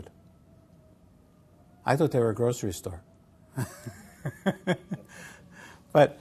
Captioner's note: laugh